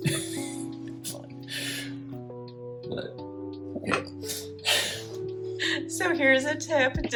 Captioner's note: nervous laughter